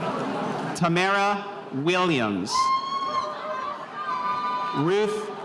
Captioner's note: spectators cheering